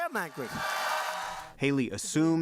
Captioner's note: cheering and applause